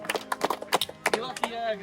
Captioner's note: crowd cheers and applauds